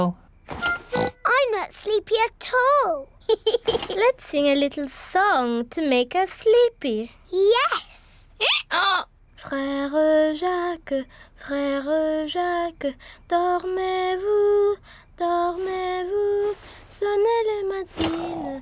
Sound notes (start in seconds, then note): 0.8 oinks; 3.2 giggles; 8.1 brays